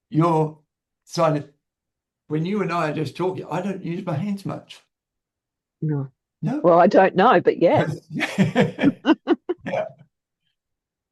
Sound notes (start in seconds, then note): 7.8 both laugh